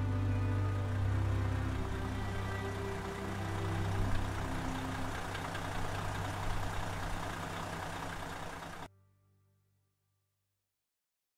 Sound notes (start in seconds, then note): 4.0 engine whirring